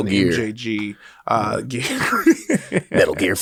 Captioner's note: laughs